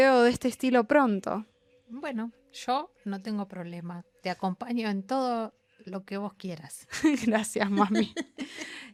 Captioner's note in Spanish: risas